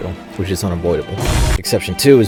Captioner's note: bang